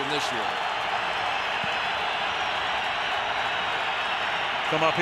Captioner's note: cheering